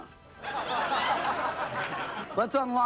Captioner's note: audience laughs